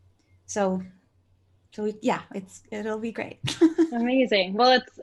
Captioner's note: laughs